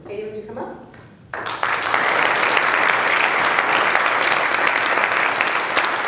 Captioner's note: applause